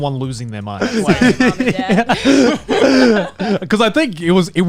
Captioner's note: laughing